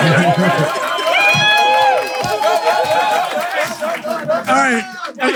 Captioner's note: people in room applauding